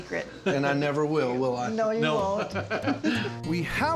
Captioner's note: laughing